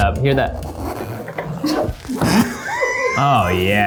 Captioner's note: styrofoam squeaking; laughs